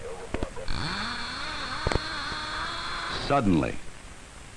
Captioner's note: reel whirring